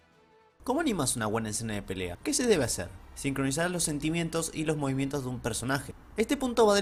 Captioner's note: reading the same thing is Spanish